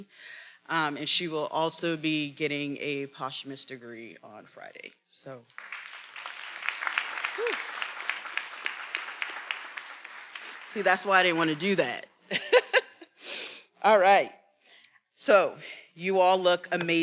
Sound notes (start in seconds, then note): 5.5 attendees applauding; 12.3 laughs